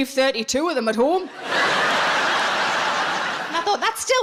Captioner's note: audience laughs